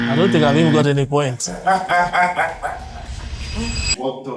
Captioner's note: laughter